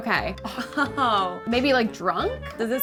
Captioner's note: laughing